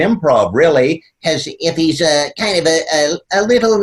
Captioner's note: in high-pitched nasal voice